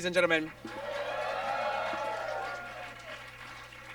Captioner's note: audience cheers